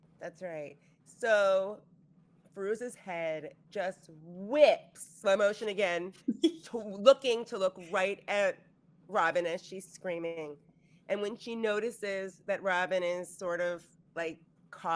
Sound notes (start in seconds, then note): 6.2 giggling